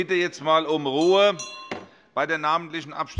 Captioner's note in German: Glockenzeichen des Präsidenten